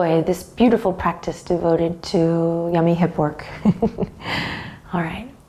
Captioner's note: chuckles